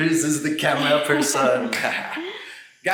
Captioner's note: giggles